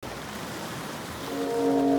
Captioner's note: waves splashing